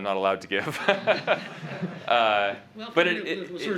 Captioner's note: laughter